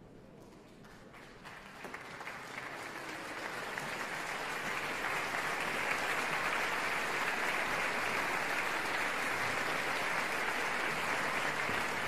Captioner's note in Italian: applauso